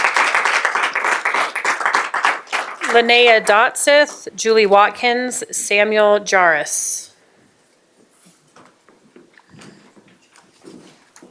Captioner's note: applause